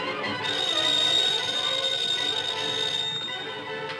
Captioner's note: tires squealing; phone ringing